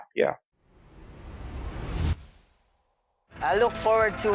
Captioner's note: logo swooshing